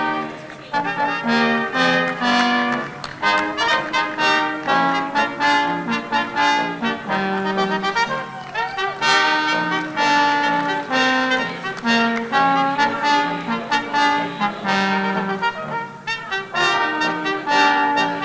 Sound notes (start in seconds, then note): 1.7 audience applauding; 8.7 audience members hooting